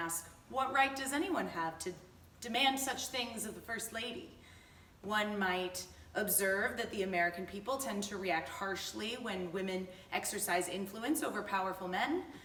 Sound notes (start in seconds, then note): none